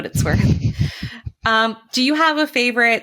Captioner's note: chuckles